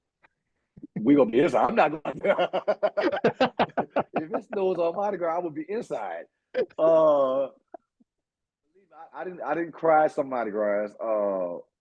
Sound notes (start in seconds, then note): 1.9 laughing